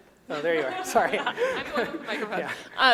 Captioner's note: laughing